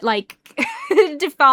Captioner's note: chuckles